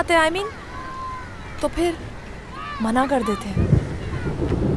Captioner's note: Clouds roaring